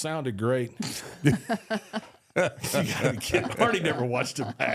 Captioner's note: group laughing